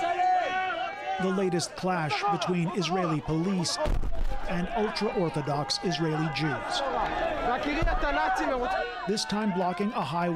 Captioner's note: crowd Noise